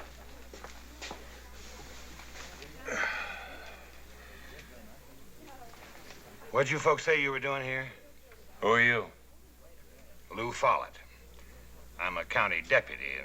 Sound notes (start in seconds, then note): 2.8 sighs